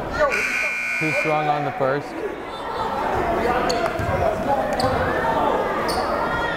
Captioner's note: buzzer blaring